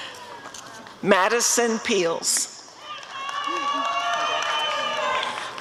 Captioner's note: audience cheering